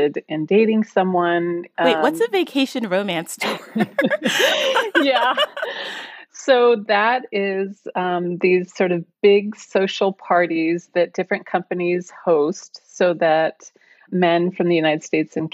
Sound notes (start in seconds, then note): 3.4 chuckles